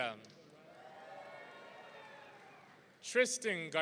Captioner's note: audience cheering